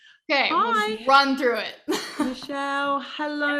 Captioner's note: laughing